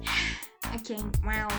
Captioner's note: sigh